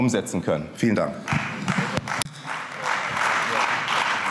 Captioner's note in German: Beifall